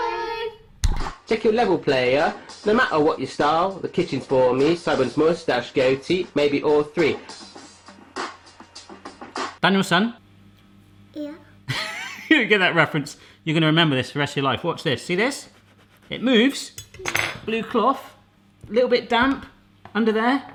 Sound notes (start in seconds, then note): 0.2 rap music; 7.1 rap music; 11.7 laughing